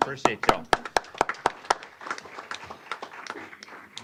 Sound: applause

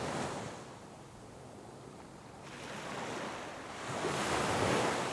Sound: wind blowing

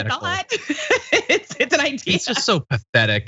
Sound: laugh

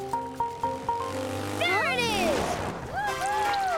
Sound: engine revving

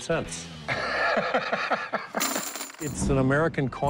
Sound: laughing

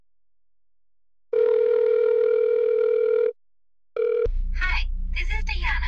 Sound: phone rings

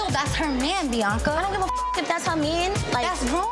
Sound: beep

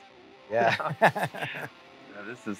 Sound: guitarists chuckling

